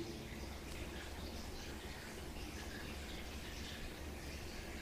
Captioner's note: water dripping